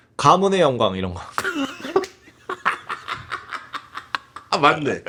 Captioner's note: laugh